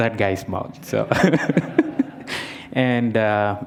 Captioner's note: laughter